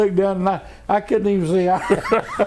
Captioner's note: laughter